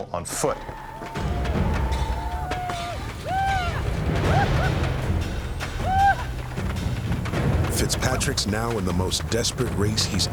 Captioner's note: whooping